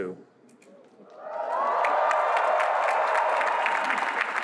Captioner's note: cheering